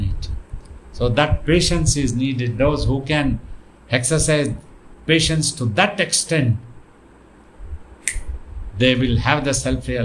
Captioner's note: clicks fingers